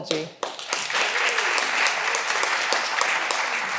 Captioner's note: all applauding